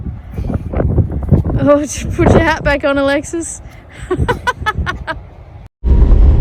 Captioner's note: both chuckle